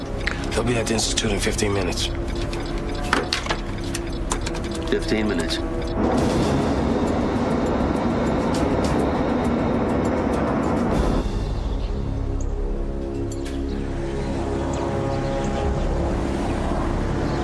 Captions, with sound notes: He'll be at the institute in 15 minutes. 15 minutes. (plane engine roars)